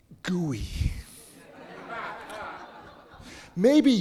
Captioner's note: audience laughing